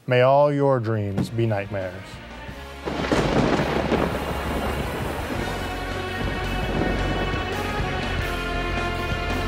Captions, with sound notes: may all your dreams be nightmares. (lightning cracks) (dramatic music)